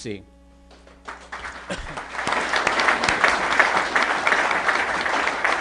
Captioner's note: applause